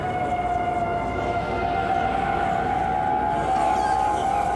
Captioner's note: whalers laughing